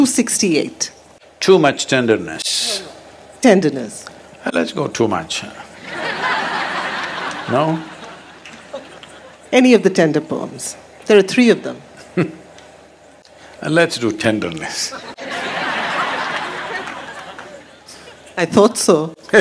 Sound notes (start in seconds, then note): 5.8 laughter; 12.0 Sadhguru laughs; 14.8 laughter; 17.0 Sadhguru laughs